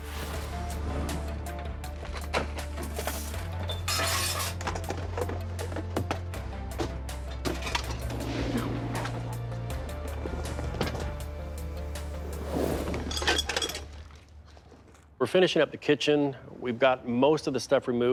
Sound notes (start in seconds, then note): 0.0 tense music; 1.9 objects clattering; 9.9 objects clattering; 9.9 tense music